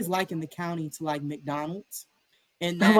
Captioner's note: laughter